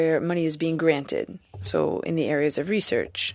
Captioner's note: speaking French